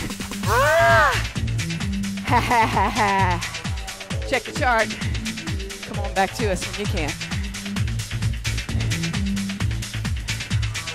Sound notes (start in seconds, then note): 2.2 laughs; 7.9 energetic music